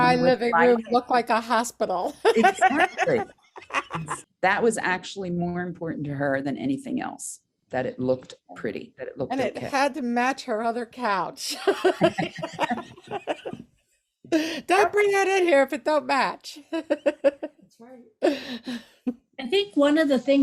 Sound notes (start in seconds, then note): 0.2 laughs; 2.0 laughs; 11.5 laugh; 16.6 laughs